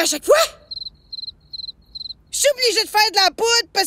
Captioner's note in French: Bruits de crickets